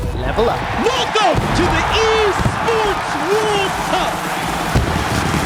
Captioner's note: audience cheering